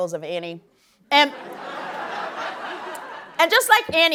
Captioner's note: laughter